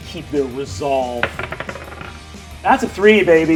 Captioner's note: die rolls